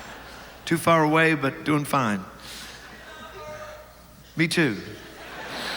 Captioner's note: audience laughs